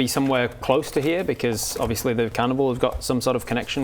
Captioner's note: none